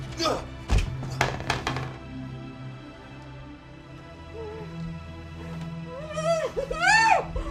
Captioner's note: baby crying